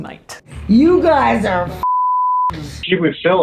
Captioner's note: beep